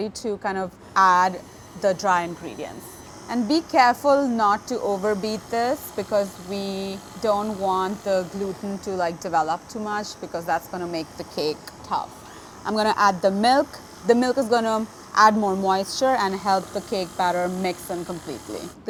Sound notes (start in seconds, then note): 2.8 mixer whirring